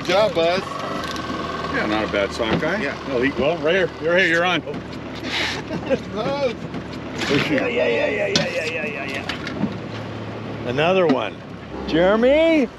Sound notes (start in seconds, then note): 7.2 laughing